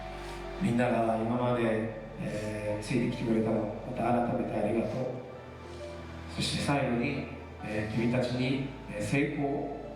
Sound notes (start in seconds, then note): 3.6 speaking foreign language